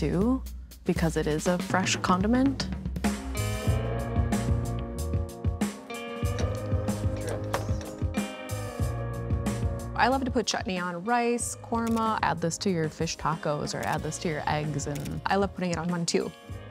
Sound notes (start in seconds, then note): 2.9 mellow groove music; 8.5 utensils scarping